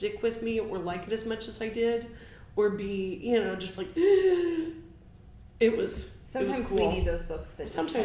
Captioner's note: gasp